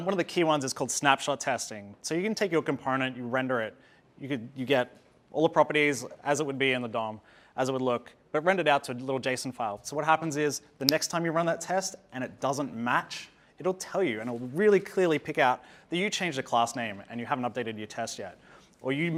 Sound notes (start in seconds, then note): 10.8 snaps